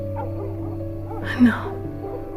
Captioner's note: whispering